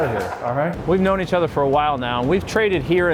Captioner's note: laughing